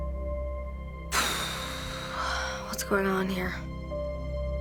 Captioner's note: exhales sharply